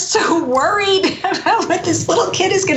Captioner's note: laugh